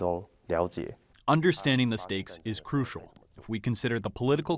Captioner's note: through translator